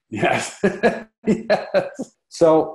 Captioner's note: laughing